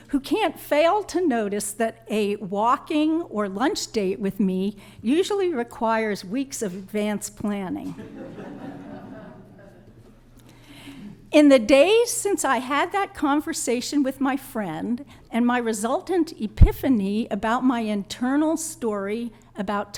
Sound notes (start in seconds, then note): 7.8 laughter